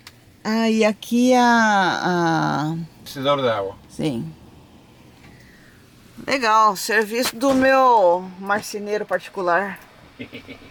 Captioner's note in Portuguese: risos